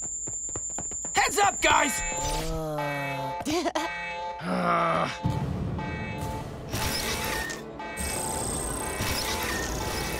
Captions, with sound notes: Heads up guys! Uh... [chuckling] Ugh!